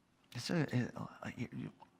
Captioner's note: mutters